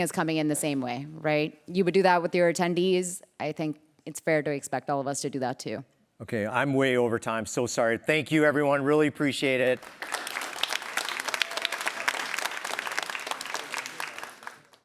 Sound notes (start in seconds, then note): 9.6 applause